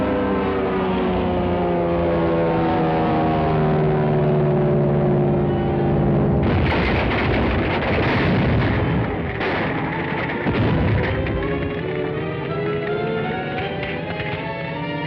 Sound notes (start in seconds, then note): 6.4 wood shatters; 7.9 explosion; 11.4 dramatic music